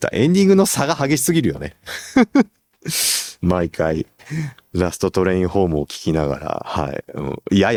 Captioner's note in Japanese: 笑い